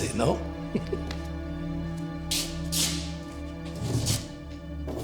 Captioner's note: Siegmund chuckling